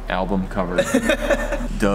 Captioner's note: laughing